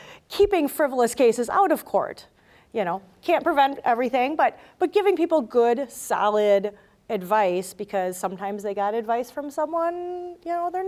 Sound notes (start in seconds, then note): none